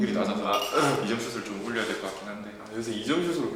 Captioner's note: ahem